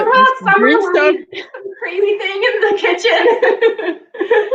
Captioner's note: laughs